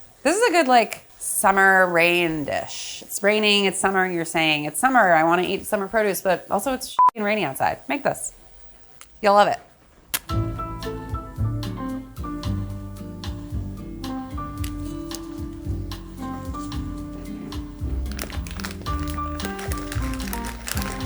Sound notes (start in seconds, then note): 6.9 beep; 10.1 match scratches; 10.9 funky music; 17.1 plastic rustles